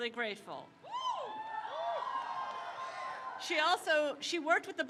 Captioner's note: crowd cheers